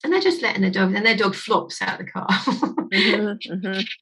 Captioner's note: laughing